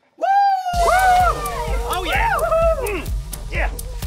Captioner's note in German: Jubel, Musik startet wieder